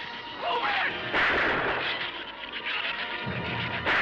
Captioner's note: gunshot